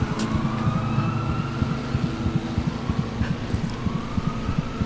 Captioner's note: dramatic music; police sirens blaring; dramatic music